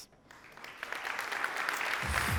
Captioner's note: applause